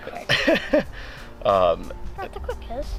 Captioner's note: laughs